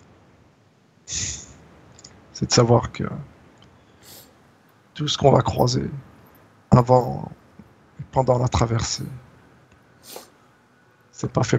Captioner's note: exhale